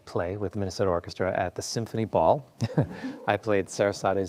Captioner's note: chuckles